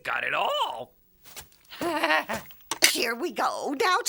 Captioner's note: laughing